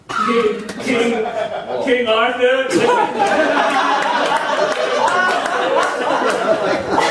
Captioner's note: audience laughing